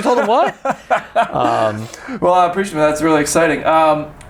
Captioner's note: laughs